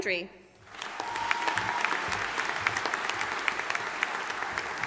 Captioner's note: audience applauding